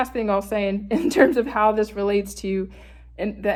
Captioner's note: chuckles